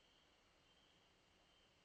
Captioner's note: none